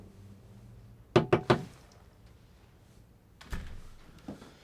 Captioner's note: knocking on door